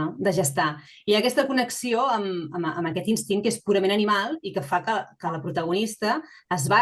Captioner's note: continues speaking in Catalan